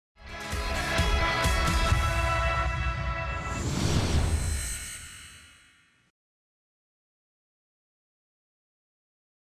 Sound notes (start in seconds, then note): 0.2 inspirational music; 3.4 science fiction electrical surge